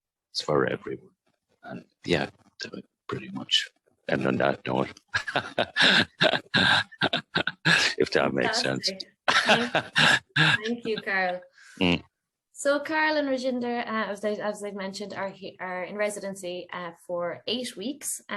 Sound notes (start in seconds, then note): 5.0 laughs